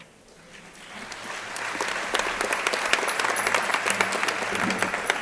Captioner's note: crowd applauding